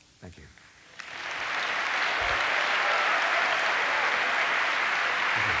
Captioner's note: applause